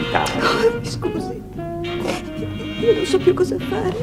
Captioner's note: sobs